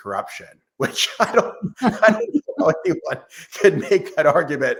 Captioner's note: laughs